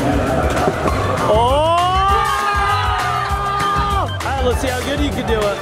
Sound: people clamoring

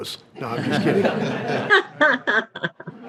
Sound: everyone laughs

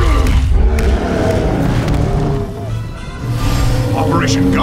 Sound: groans

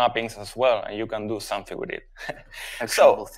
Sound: chuckles

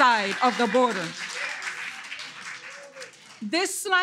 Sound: audience clapping

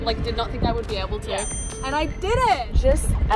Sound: beep

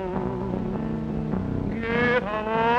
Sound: none

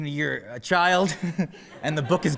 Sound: laughter

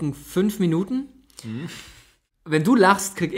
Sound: laughs

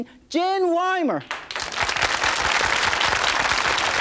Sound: applause

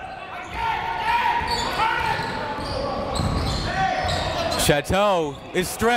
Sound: crowd talking; coaches yelling

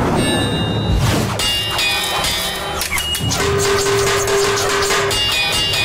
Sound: clanking

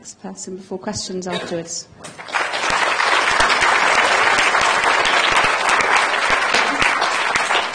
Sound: applause

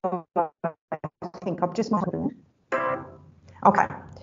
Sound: audio dips

